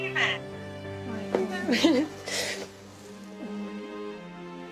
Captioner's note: sniffling and laughing